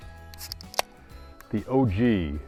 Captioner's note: upbeat music; can pops